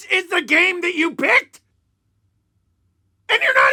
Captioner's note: silence